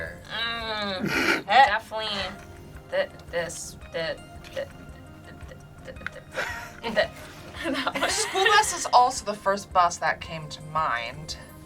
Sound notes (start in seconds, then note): 1.4 laugh; 7.6 laughs